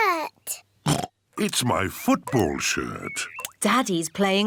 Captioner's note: oinks; oinks